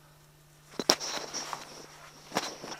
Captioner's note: mic crackles